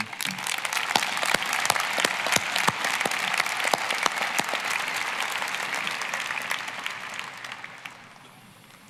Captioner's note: applause